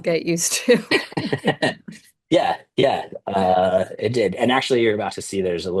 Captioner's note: laughter